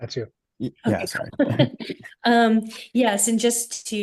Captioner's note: chuckles